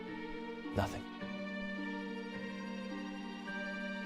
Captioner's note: somber music continues; sighs